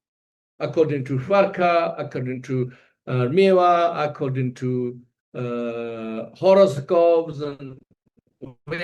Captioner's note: tibetan